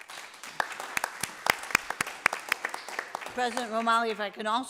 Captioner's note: group applauds